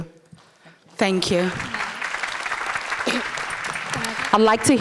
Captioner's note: audience applauding